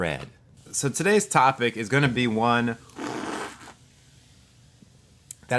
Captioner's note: slurps